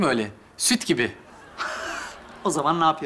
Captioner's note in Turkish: Gülme efekti